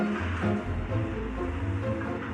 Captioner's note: electric whirring